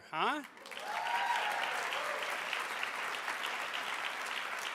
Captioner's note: audience applauds